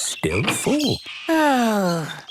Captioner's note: sighs